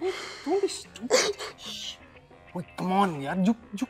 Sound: crying

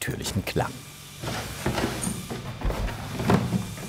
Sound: bright whirring in the background

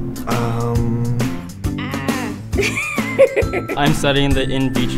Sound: laughter

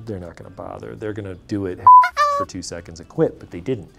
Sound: beep

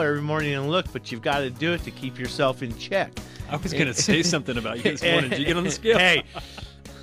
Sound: both laugh

